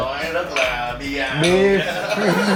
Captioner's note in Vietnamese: laugh